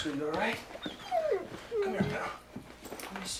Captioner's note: dog whines